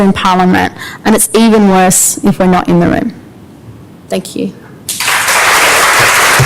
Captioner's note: applause